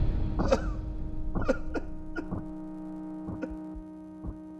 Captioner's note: crying